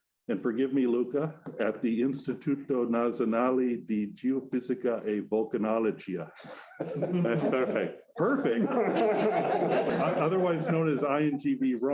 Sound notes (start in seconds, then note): 5.4 audience laughing; 10.7 audience member chuckles